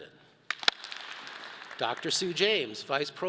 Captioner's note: all clap